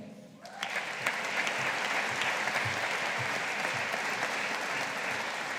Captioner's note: audience applauding